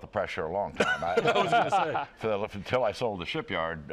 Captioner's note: laughter